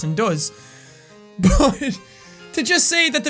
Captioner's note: laughs